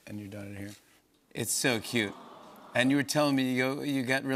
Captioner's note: audience aws